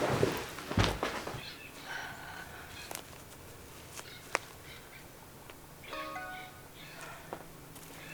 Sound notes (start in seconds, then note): 5.9 phone chimes